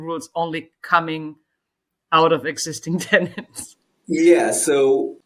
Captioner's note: laughs